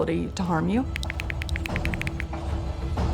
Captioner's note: typing